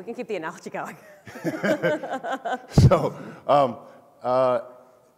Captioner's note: speakers laugh